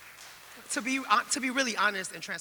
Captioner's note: audience applauding